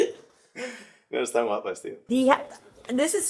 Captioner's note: in spanish